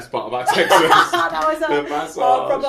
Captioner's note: laughing